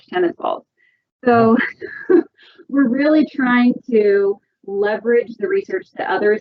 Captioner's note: laughs